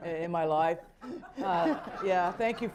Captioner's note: laughter